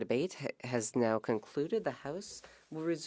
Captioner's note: speaking French